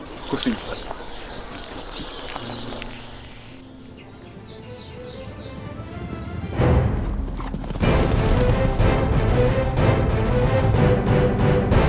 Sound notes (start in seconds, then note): 5.2 horse galloping; 7.8 dramatic music